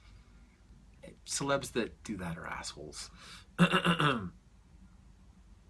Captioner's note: clears throat